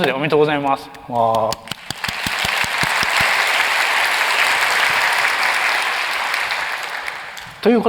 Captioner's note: applause